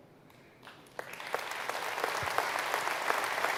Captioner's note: applause